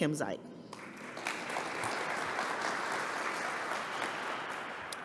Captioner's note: applause